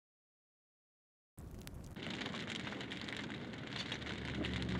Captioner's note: fire crackling; somber music plays